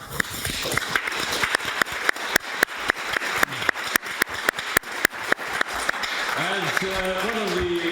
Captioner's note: applause